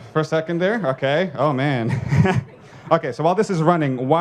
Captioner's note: laughs